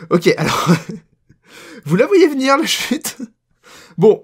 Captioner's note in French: Rire; Rire